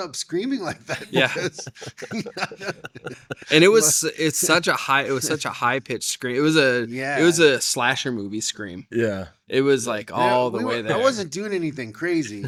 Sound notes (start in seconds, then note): 0.6 laughing